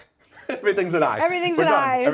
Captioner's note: chuckling